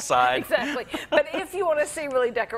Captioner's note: laughs